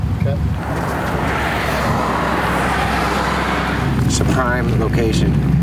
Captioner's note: traffic humming